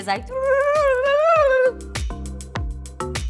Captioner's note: imitates recorder trilling; light electronic music